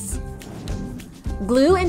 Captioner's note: playful music continues; transition whooshes